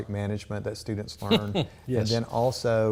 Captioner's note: laughs